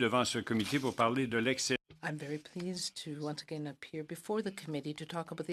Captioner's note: speaking in French